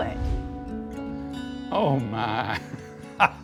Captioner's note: laughs